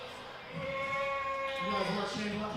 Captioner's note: crowd booing